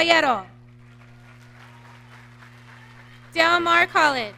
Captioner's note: audience clapping